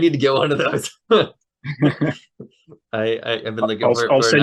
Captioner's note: laughter